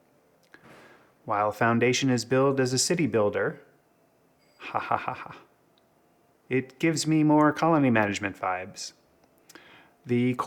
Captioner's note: ha ha ha